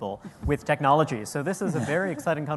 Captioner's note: laughter